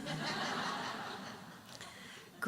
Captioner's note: audience laughing